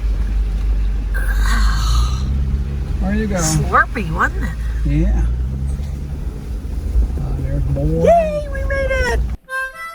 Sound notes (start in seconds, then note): 1.2 grunts; 9.7 soft bluegrass music